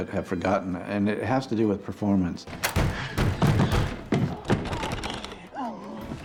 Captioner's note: wheezing; pounding on door